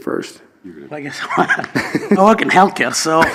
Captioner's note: laughs